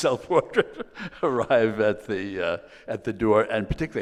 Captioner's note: laughs